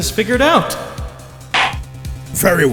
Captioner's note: gavel slams!